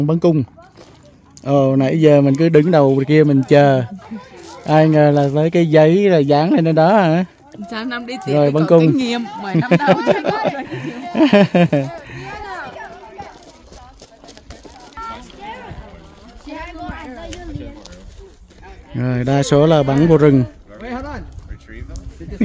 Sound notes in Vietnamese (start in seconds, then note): 9.4 Tiếng cười